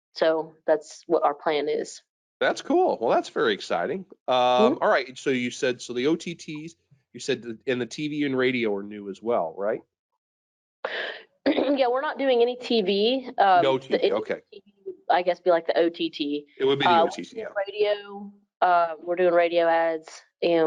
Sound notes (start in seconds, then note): 14.9 speaking faintly